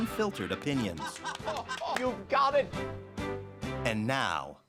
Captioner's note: laughs